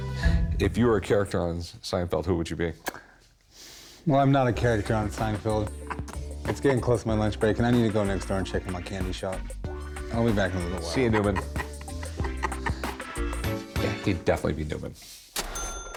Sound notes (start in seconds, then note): 12.0 laughs